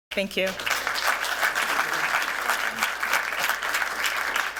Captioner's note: applause